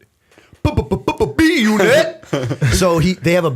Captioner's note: chuckle